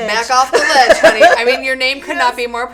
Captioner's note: laughing